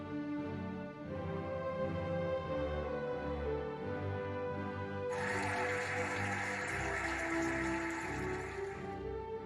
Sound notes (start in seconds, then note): 5.1 cheering and applauding